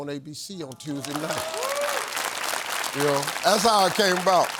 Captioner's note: audience clapping